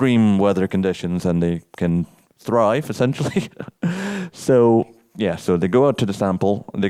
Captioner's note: chuckles